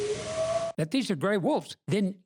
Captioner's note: howl with pitch changes